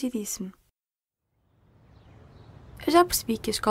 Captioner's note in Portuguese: Vento e chilrar de pássaros